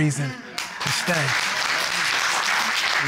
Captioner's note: audience applauding